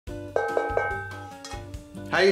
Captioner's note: metal clanging